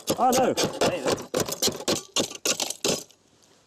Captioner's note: metal clanking